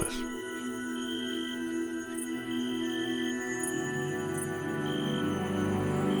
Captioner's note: serene music; insects chirping